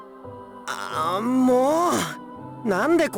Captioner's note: frustrated groan